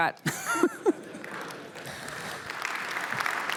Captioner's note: applause